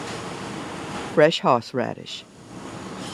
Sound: voiceover

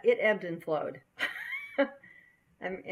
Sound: laughing

